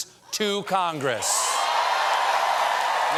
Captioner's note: cheers and applause